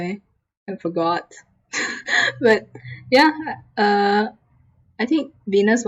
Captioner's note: laughs